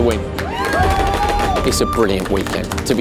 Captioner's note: applause